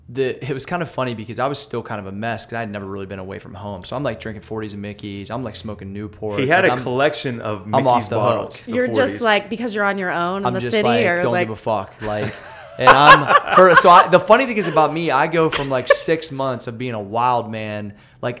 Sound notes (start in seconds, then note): 12.0 laughter